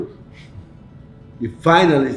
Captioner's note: chuckles